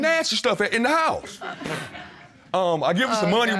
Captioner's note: blows raspberry